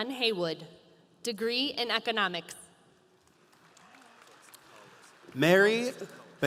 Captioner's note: audience applauding